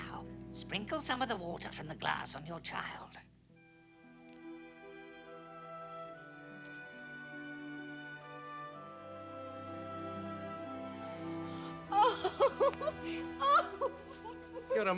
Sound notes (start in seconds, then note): 11.3 gasps; 11.9 wife laughing